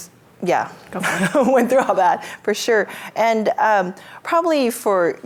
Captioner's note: chuckles